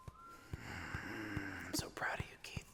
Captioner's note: sighing